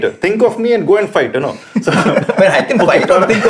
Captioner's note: laughter